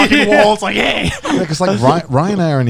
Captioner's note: growling